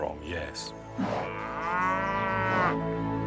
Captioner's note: moo